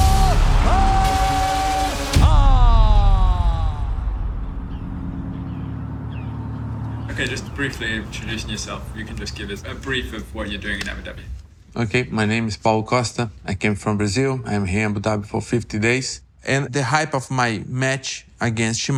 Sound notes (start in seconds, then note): 4.4 birds singing